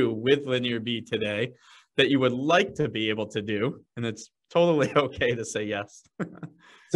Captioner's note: chuckles